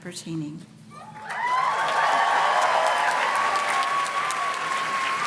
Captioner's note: audience cheers and claps